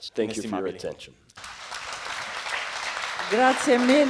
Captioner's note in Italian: Applausi